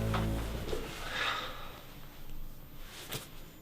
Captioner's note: sighs